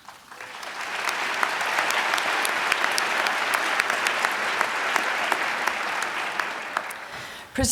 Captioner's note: applause